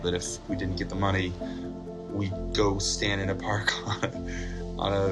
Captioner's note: Risos